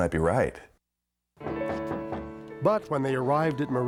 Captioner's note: knocking loudly